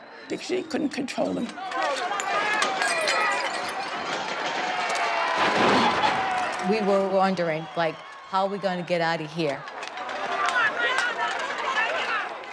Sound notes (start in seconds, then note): 0.5 crowd shouting, glass shattering; 9.0 crowd shouting, objects clattering